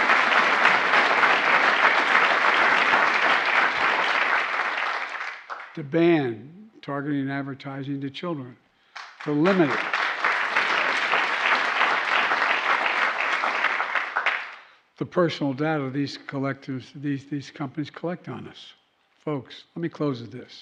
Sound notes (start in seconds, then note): 8.9 applause